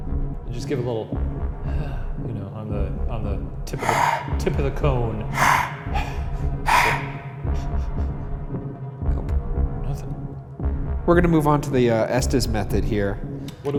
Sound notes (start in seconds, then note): 2.0 exhales; 5.3 exhaling